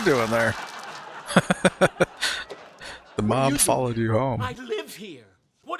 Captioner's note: laughing